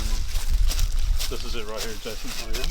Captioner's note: rustling leaves